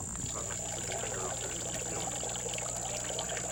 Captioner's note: water running